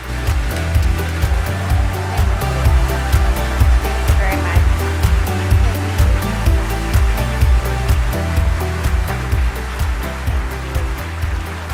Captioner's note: applause